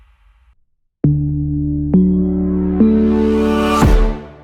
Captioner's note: stomps again